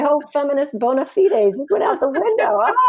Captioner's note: laughs